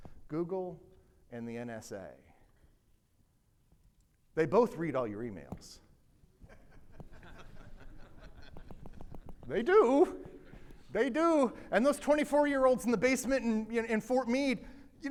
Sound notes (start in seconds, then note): 6.5 audience laughing